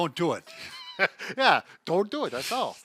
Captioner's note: laughing